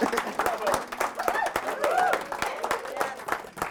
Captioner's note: cheering